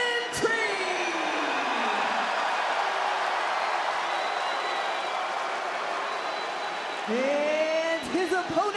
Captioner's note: crowd cheers